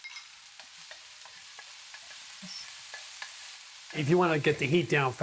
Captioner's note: sizzling